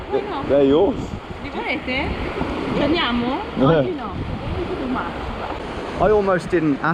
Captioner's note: speaking in a foreign language